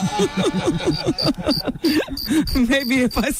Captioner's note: laughing